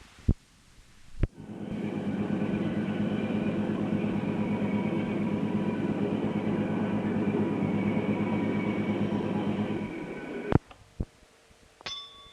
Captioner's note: sound of train moving; bell Sound